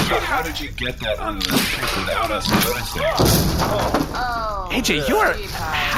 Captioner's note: sound of something breaking